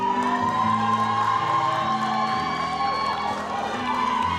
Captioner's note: audience cheers